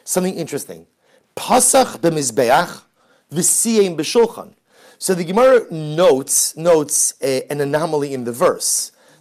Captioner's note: Hebrew